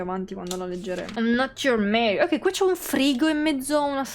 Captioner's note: imitating Maria's voice